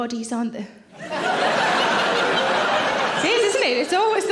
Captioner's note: audience laughing